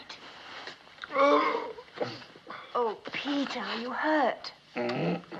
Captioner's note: groaning